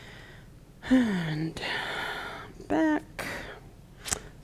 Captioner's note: sighs